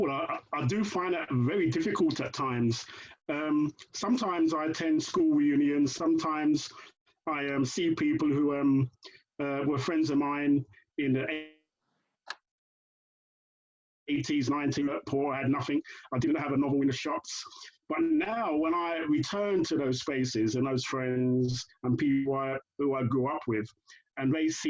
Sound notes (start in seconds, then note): 12.5 brief gap in sound recording